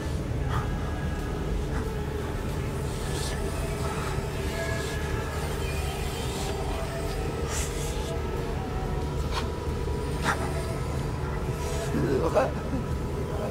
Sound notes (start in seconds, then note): 8.7 ooh, ooh